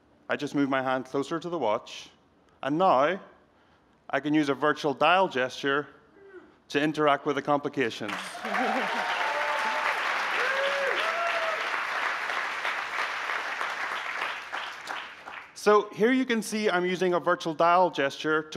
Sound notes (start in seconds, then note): 8.0 applause